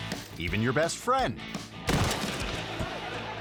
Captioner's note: rock music; bike crashing; audience laughing